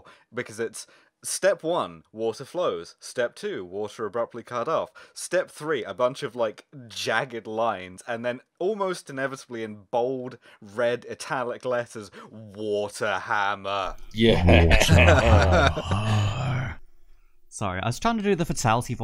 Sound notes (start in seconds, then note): 13.5 'Fatality!' voice; 14.2 laughter